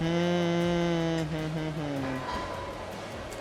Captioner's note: humming